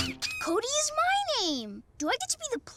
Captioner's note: spits